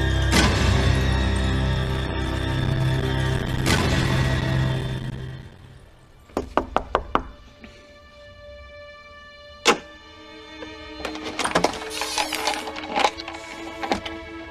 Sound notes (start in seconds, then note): 6.3 door knocks